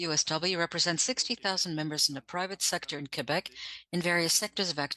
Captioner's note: speaking French